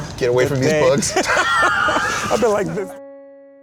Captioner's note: laughter; gentle piano music